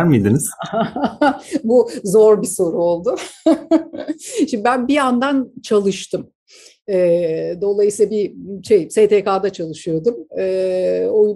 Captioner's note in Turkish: gülüşmeler